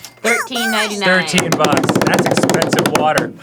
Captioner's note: drumming on table